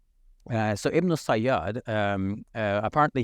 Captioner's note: speaking in foreign language